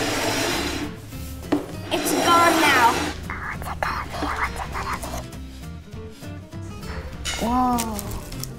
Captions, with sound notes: It's gone now. - (whispered) What's it gonna be? What's it gonna be? - Whoa.